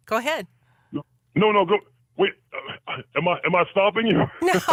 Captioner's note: laughs